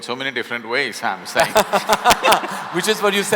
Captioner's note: laughter